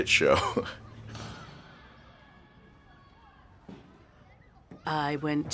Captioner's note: risas